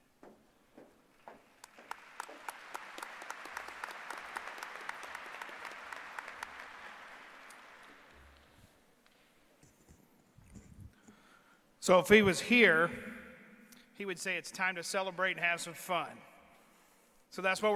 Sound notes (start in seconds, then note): 3.5 applause